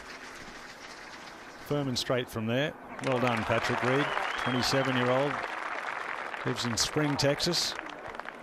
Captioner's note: applause